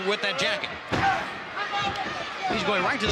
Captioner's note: fist thuds